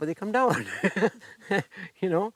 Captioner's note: chuckles